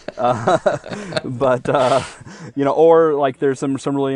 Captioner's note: laughing